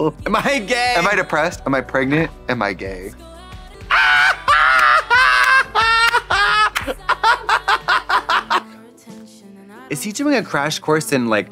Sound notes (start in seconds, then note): 3.8 Trixie howling and cawing; 6.7 Katya clapping